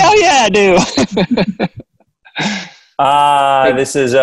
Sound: laughing

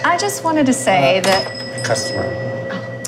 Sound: store bell rings

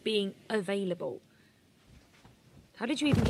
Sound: duvet rustling

